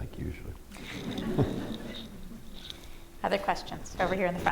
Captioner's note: laughter